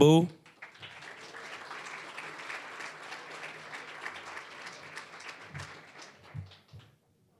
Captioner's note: applause